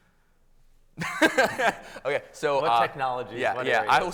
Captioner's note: laughs